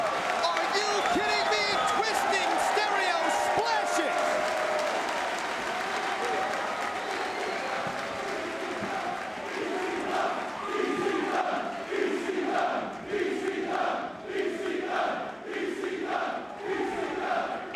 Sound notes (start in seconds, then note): 4.5 crowd cheering